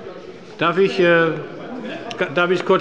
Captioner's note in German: Zurufe von der SPD